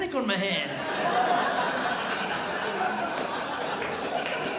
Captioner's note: crowd laughs